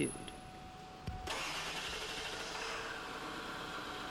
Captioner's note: starts engine